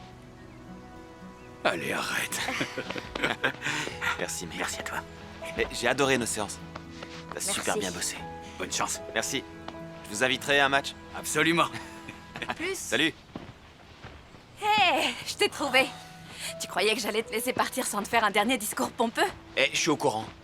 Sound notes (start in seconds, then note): 2.2 laughing